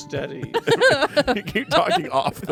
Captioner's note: everyone laughs